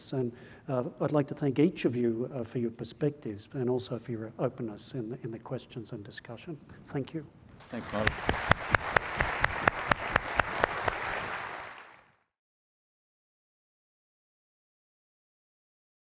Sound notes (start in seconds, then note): 7.6 audience applauding